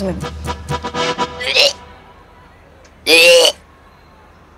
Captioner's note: Retching